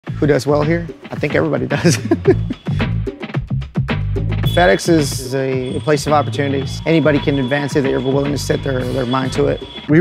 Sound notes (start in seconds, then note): 1.7 laughing; 3.2 upbeat jazzy music